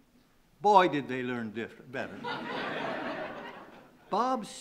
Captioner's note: laughing